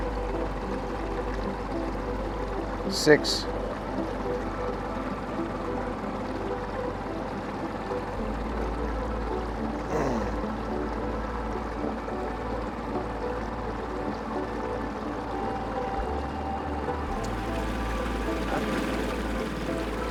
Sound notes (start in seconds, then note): 4.0 boat engine rumbling; 4.0 gentle upbeat music; 19.9 boat engine rumbling; 19.9 gentle upbeat music